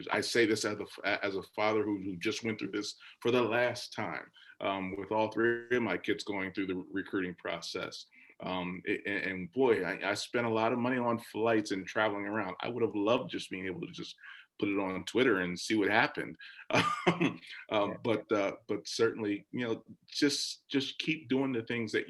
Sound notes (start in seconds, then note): 16.7 laughs